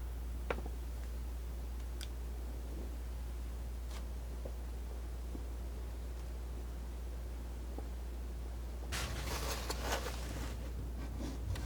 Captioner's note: scratching